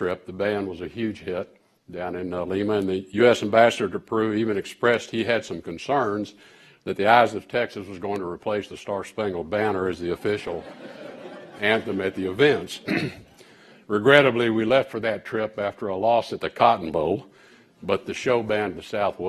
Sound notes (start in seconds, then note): 10.1 laughter